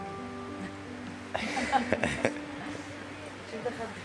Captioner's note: laughter